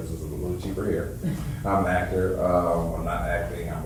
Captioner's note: woman chuckles